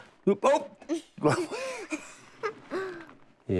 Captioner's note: both laugh